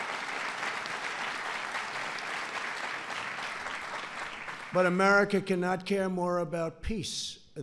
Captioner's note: applause